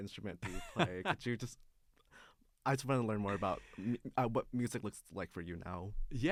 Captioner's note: laughs